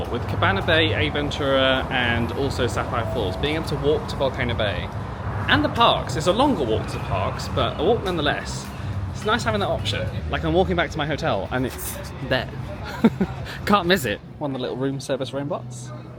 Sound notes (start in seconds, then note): 12.8 laughs